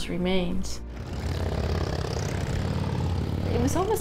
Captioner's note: engines rev